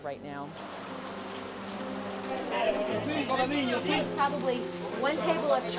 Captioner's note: rain pattering